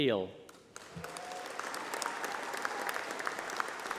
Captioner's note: applause